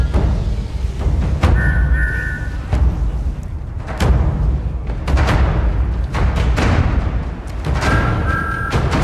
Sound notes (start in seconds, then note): 1.5 train whistles; 7.0 train whistles